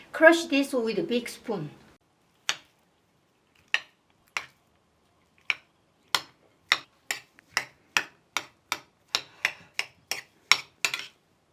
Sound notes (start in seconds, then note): 2.6 spoon clunking; 7.5 spoon scraping